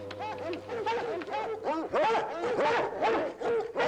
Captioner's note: barking